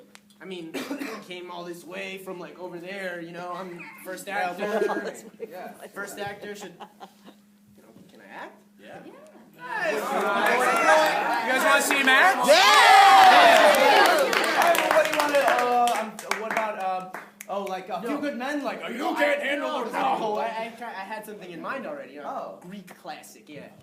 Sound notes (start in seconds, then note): 13.3 applause